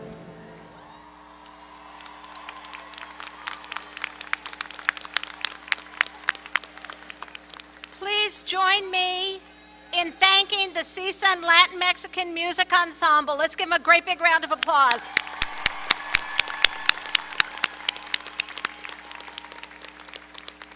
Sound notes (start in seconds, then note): 1.3 applause; 16.1 applause